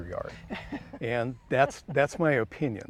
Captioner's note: laughing